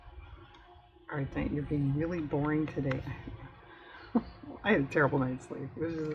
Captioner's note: laughs